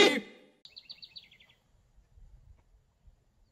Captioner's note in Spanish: pájaros trinando